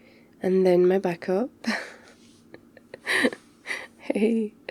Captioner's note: laughs